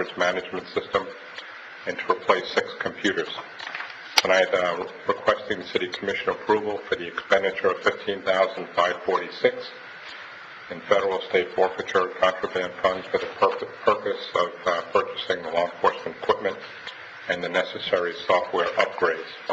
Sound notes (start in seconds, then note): none